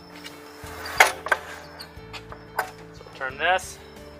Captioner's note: clangs